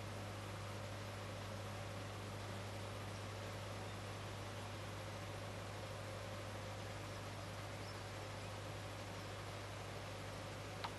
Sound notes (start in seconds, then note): 7.0 engine Noise